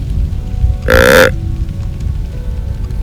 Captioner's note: soft music; sound of grunt call